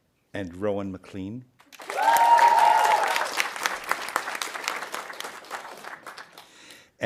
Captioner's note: audience applauding